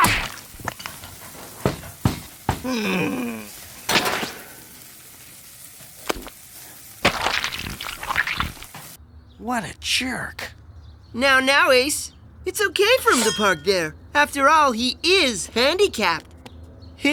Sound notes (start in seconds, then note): 2.1 banging; 2.6 groaning; 7.0 squishing